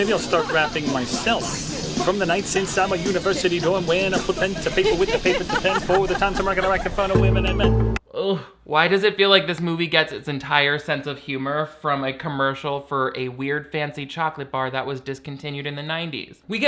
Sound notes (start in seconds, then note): 0.0 laughs; 6.0 wife laughing